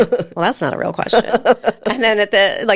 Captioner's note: laughing